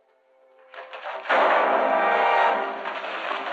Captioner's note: tense music; gunshot